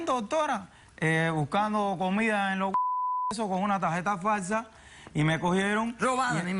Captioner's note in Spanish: Bip